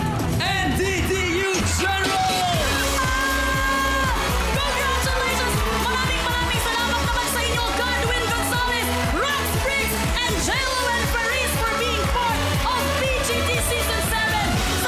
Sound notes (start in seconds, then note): 2.7 theme music playing; 2.9 melai screaming